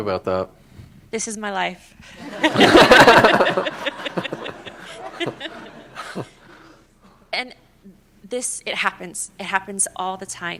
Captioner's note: laughter